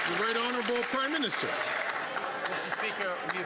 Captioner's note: some Applause